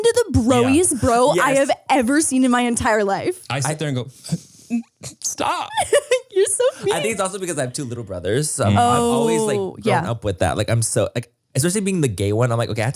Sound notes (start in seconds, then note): 4.6 whimpers; 5.5 laughs